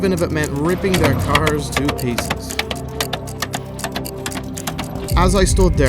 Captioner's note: knocking sound